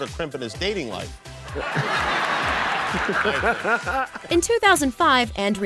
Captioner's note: laughs